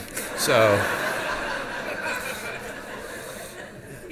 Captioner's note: audience laughs